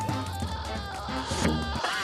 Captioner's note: screaming